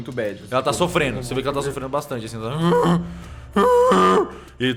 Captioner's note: bellows of pain